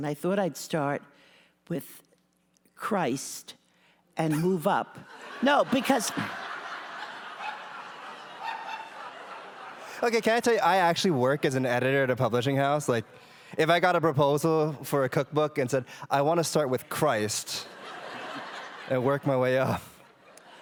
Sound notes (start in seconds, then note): 5.0 laughter